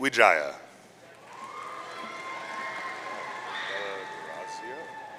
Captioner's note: audience cheering